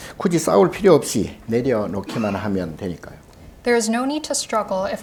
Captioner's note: speaking Korean